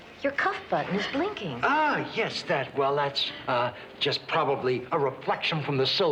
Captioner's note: none